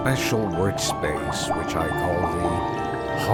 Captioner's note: potions bubbling inside the Haunted Lab